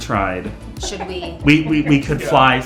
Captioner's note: laughing